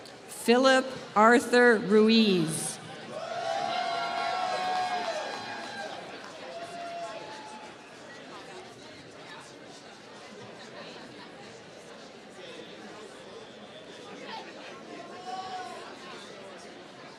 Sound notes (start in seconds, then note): 3.2 applause